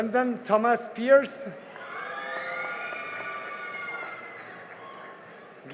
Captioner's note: cheering and applause